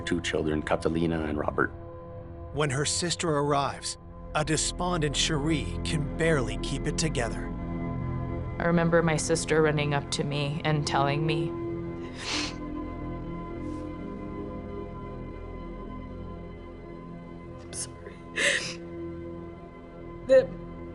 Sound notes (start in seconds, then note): 12.1 sniffles; 19.2 inhales sharply